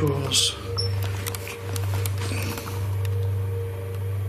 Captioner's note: machine beeps